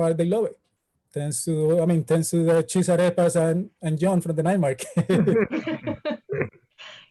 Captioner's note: everyone laughs